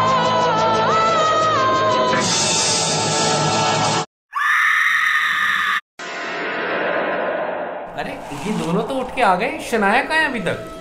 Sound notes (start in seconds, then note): 4.3 screaming